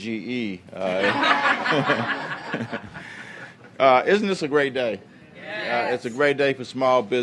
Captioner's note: laughter